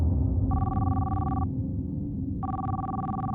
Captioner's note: phone ringing